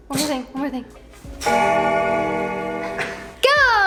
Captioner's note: bell ringing